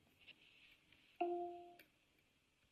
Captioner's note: device chimes